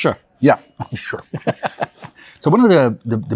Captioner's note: both chuckle